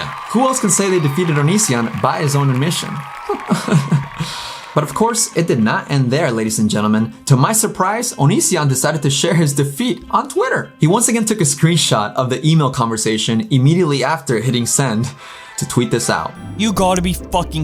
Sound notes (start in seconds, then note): 3.2 laughs